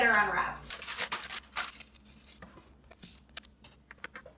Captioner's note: paper rustles